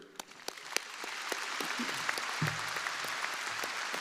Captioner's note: crowd applauding